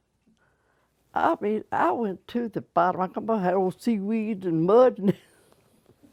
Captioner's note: laughter